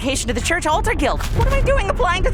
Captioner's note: rumbling